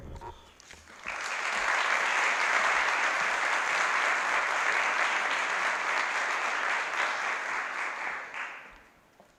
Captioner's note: applause